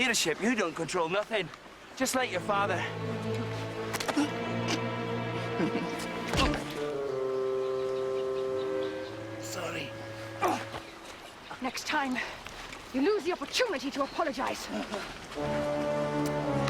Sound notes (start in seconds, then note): 2.9 dramatic music; 6.5 playful music; 10.4 grunting; 12.9 dramatic music